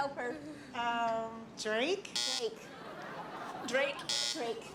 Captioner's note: buzzer